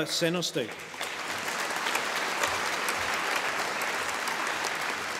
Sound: audience applauding

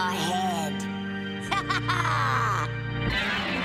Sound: maniacal laughing

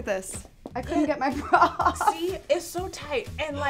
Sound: laughs

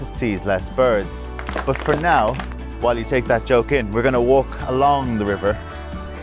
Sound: scattered applause

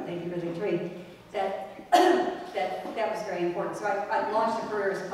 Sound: cough

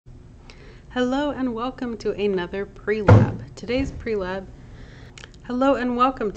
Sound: weird clunking noise

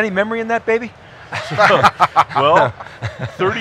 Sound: laughing

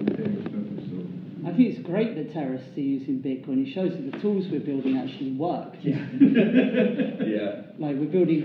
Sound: laughter

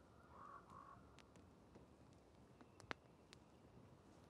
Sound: fire crackling

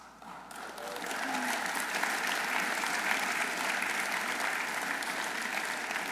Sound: audience applauding

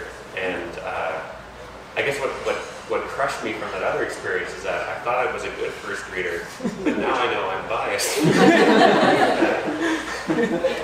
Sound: laughter

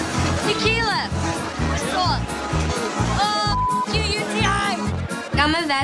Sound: beep

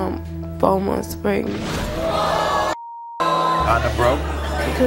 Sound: audience screaming

